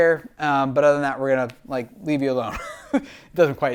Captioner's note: chuckles